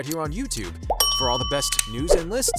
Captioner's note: bell dings